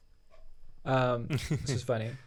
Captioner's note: laughs